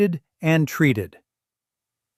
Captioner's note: pause